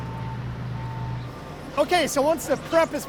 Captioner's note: vehicle backing alarm; vehicle engine rumbling